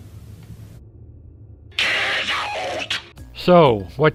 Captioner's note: demonic Voice